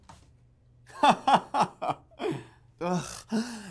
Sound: laughs

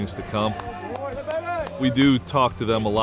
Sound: clapping

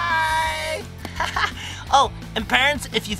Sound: laughing

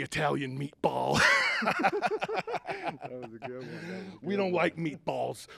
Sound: both laughing

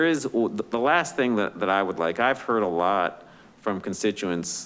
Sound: none

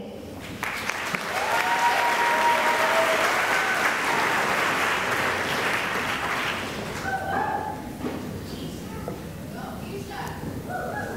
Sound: cheering and applause

